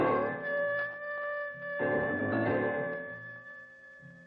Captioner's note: wolf howling